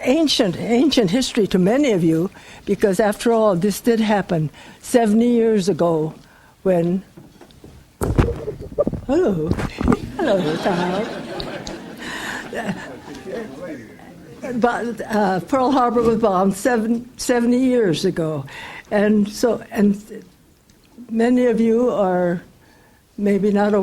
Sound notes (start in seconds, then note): 10.0 audience laughs